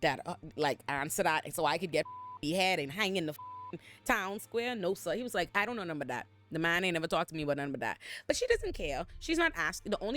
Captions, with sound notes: that like, answer that so I could get (beep) he had and hang in the town square, no sir. He was like, I don't know nothing about that. The man ain't never talked to me about nothing but that. But she doesn't care. She's not asking, the only